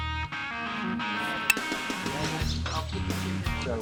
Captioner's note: background chatter